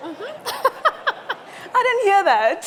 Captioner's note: laughs